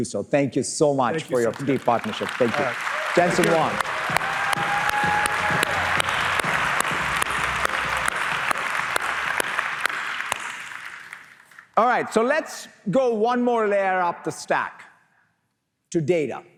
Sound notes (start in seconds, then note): 3.8 applause